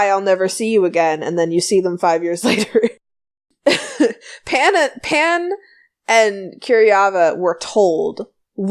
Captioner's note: laughs